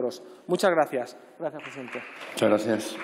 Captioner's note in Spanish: Aplausos